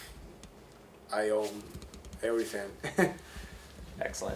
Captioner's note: laughs